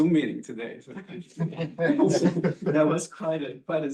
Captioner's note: laughter